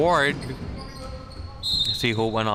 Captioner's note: whistle chirping